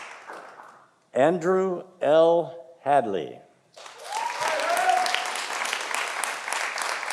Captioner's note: audience applauding